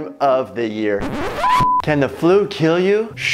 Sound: record scratch

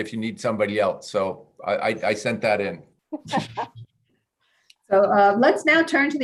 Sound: chuckling

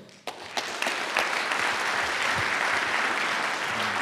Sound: audience applauds

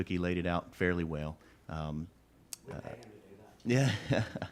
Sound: laughs

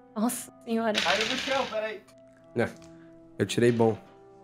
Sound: dice falls

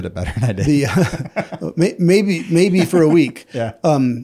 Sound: laughs

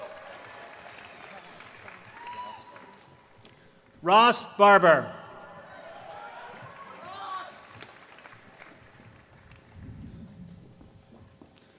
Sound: applause

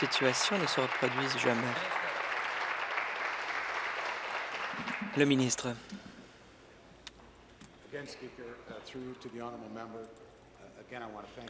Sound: applause

